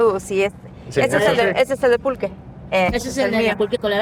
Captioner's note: speaks Spanish